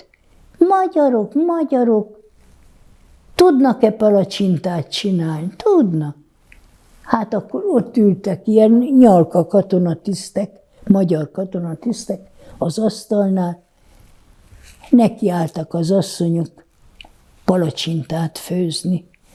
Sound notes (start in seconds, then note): none